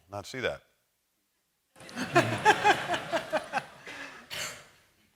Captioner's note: laughter